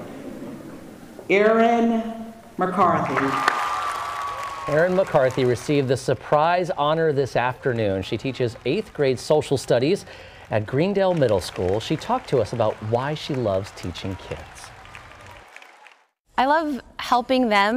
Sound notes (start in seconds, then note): 9.4 applause